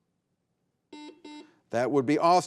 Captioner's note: buzzer beeping